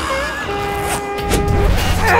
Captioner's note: zipper